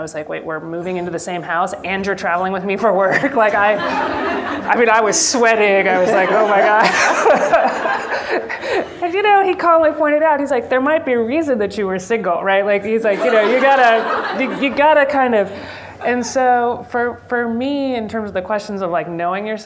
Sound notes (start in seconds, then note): 3.1 members of the audience laugh; 8.7 laughs; 13.5 members of the audience applause